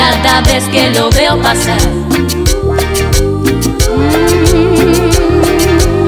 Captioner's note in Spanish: ooh